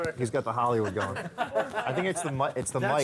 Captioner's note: laughter